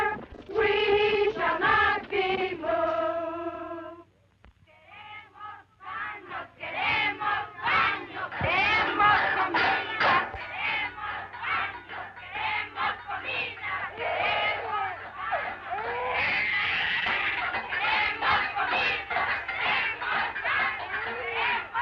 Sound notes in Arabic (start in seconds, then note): 4.7 نساء يرددن شعارات باللغة الإسبانية; 13.9 بكاء الطفل; 18.3 يستمر الهتاف